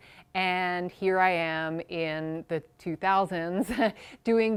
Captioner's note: chuckles